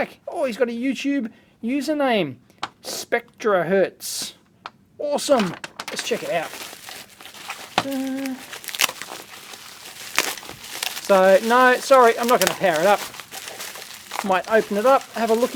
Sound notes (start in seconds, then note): 4.7 plastic rustling